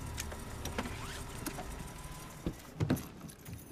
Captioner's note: engine shuts off